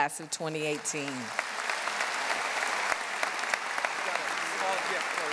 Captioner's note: audience applauding